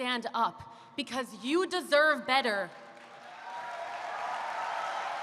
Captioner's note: applause